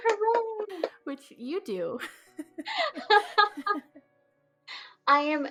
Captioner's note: both laugh